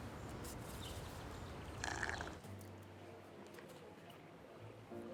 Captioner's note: slurps drink